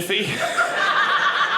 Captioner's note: audience laughing